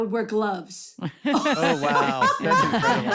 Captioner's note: laughing